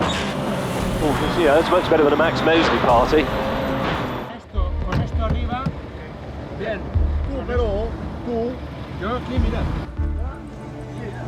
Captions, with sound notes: That's much better than a Max Mosley party. (POLICEMEN TALK)